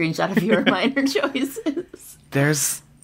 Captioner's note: laughs